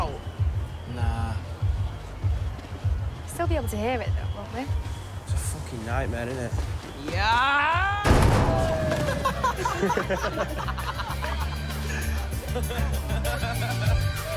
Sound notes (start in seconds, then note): 6.6 shouting; 9.0 laughter